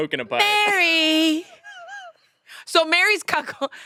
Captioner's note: laughs